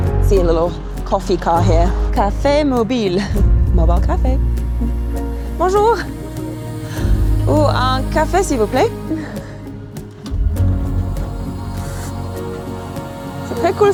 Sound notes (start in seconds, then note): 0.0 uplifting acoustic music; 5.5 speaks French